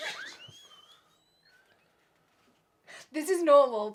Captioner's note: laughs